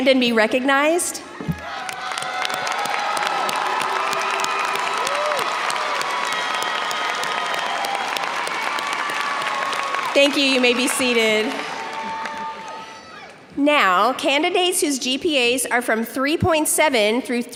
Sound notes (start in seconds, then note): 1.9 audience cheers and applauds